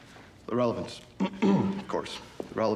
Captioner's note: clears throat